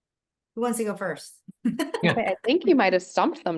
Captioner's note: chuckles